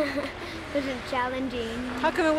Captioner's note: laughter